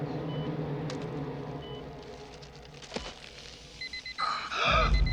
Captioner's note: gasping; gasping, coughing